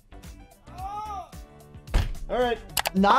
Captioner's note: groans